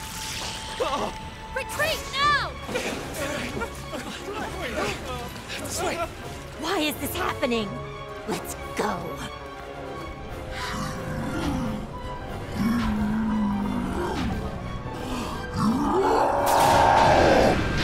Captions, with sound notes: -[gasps] -Retreat now! [all shuddering and clamoring] Why is this happening? Let's go. [Heatran growling] [roars]